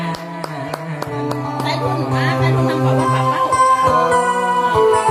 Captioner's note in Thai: ปรบมือ